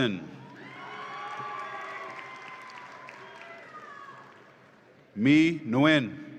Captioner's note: audience applauds and cheers